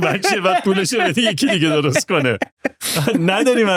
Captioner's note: laughs